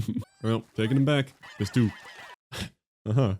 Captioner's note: laughs